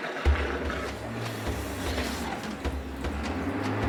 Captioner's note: vehicle approaching